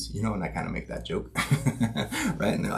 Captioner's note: chuckles